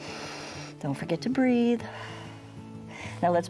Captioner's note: exhales